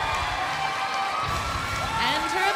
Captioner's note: crowd cheering